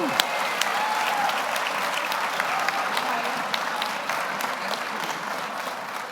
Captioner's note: audience applauds; audience cheers